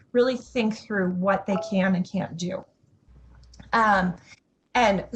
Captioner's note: notification chimes